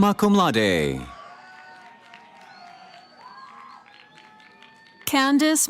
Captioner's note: cheering